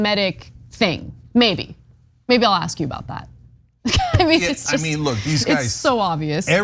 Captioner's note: laugh